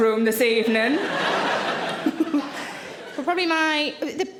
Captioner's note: audience laughing